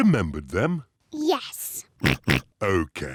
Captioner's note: oinks